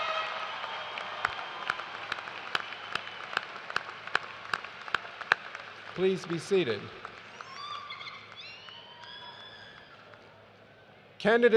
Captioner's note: cheers and applause